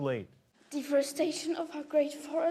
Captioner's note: none